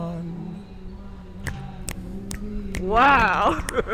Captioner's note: fingers snapping; both laughing